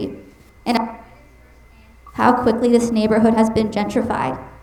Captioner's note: mic cutting out